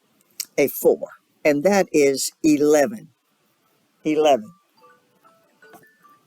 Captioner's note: phone rings